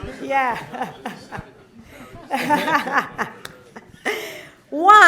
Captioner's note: laughter